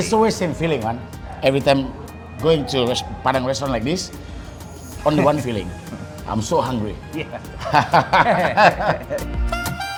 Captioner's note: laughing